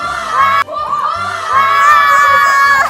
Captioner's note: oohhh!!!